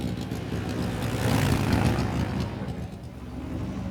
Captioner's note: motorcycle rumbling